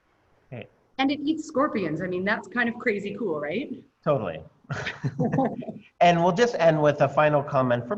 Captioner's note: laughter